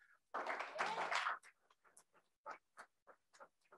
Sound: crowd applauds

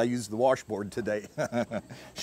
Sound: chuckles

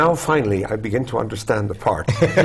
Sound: laugh

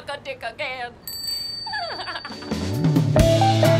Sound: bell chime; laughter

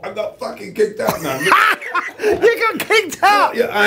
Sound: laughs

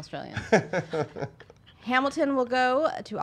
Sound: laughing

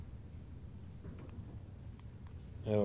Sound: clicking

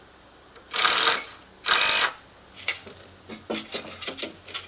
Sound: drill whirring

